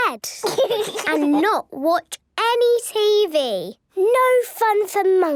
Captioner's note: laugh